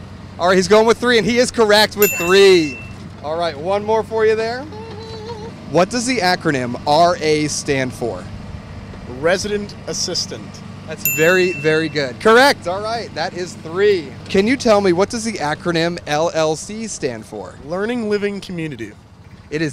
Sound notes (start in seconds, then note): 2.0 bell dinging; 11.0 bell dinging